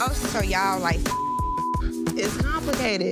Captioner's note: beep